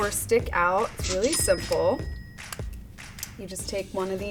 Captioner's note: cash register ringing